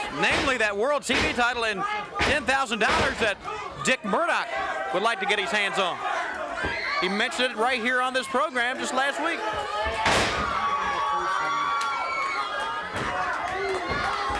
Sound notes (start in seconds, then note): 1.0 blows thudding; 2.8 body thudding; 9.9 crowd cheering; 10.0 body thudding; 11.4 hands thudding